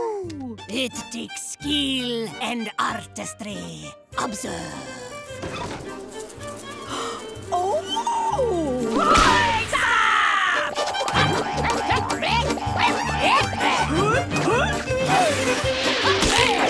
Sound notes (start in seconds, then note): 5.0 buzzing; 6.8 gasping